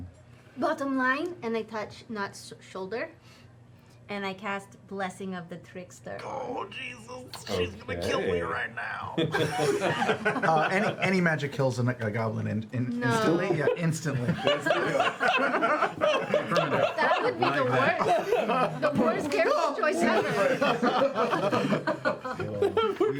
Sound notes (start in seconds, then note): 9.2 laughter; 14.0 laughter